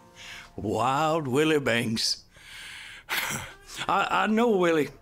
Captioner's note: chuckles